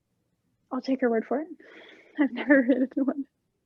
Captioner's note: laughs